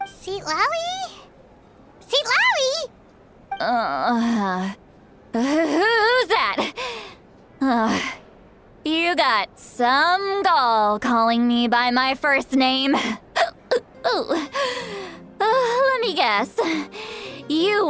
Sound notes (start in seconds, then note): 12.9 hic